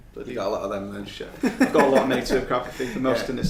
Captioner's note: laughing